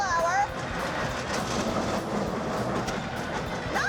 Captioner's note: machine grinding sound